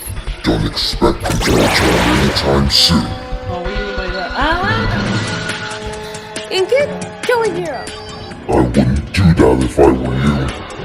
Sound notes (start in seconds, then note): 6.0 gasp